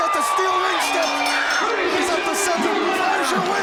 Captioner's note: bell rings